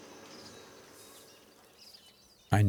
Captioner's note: birds chirping